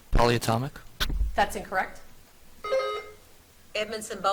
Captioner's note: buzzer beeps